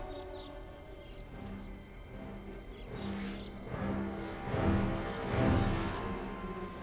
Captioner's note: none